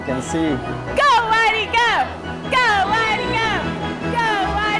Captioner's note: students are chanting